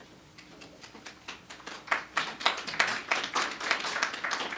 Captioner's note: applause